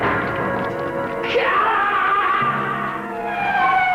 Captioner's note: Shiro screams